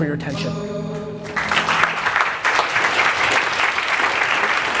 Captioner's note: applause